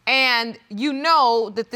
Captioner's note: none